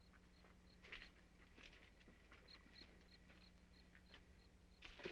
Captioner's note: insects chirping